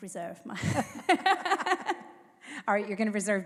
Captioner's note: laugh